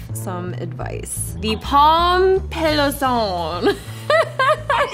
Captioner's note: laughs